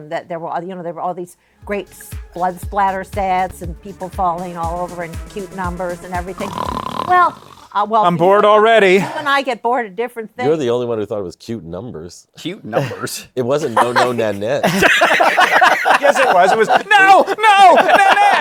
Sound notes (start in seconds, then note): 6.3 snores; 15.2 laughter